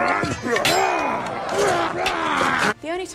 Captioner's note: grunting sounds; makes grunting sound